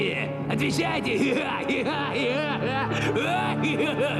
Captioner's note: laughing